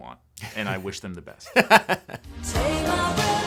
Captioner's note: laughing